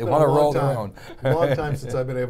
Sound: laughs

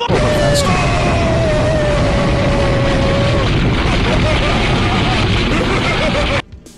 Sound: wtf boom meme plays loudly

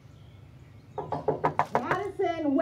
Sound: knocking

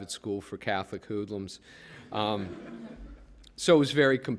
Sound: laughter

